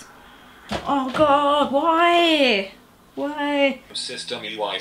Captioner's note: stamps feet